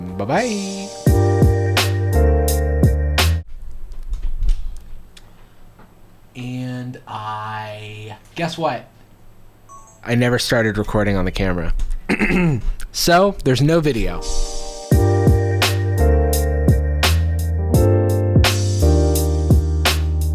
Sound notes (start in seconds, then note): 0.0 bright upbeat music; 12.0 clears throat; 14.1 bright upbeat music